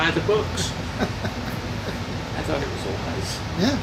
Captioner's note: laughing; laughing